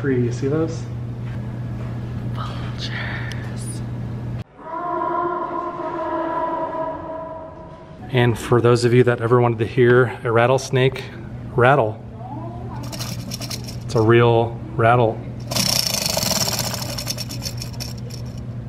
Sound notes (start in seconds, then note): 1.7 whispering; 4.5 distorted cawing; 15.4 rattling